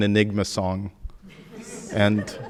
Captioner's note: audience laughing